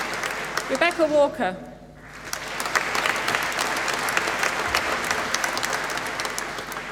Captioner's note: applause